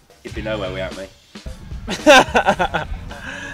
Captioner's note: laughing